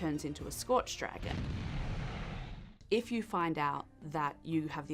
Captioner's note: breathing fire